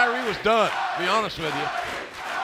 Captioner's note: fans chanting